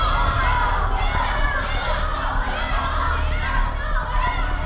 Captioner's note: children shouting